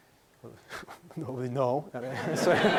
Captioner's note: laughing